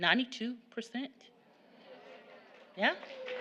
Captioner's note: audience gasping, clapping